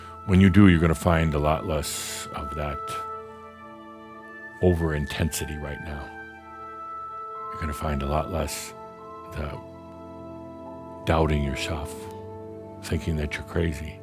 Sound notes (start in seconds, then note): none